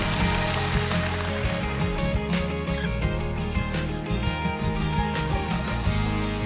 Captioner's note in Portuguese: plateia aplaudindo